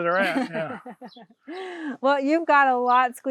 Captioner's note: laughs